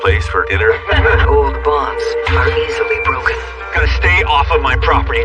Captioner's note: group lahshs